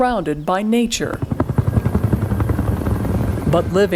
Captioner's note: helicopter whirring